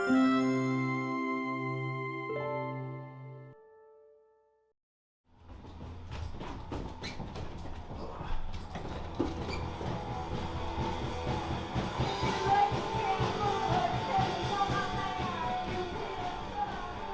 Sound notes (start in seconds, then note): 0.0 bright music; 9.0 shoes squeaking; 13.3 hard rock music